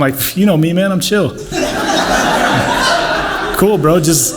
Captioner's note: huffs